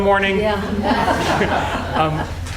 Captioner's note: laughing